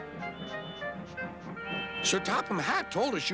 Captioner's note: hooting